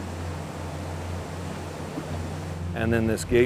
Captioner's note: water rushing